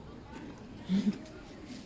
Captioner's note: laughs